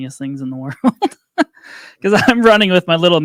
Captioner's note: laughs